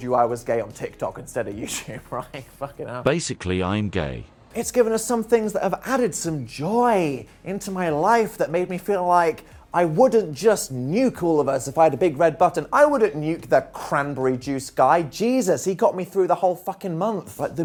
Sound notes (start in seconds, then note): 3.5 TTS Voice